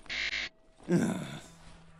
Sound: frustrated grunt

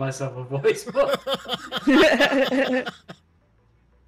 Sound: all laugh

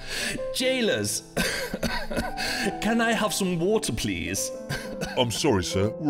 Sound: cough

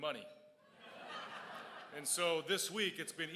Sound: crowd laughs

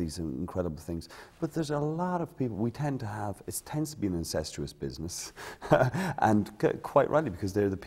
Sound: laughter

